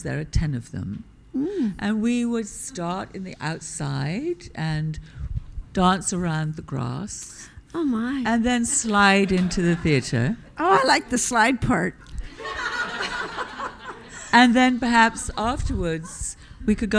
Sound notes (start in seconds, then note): 12.3 audience laughing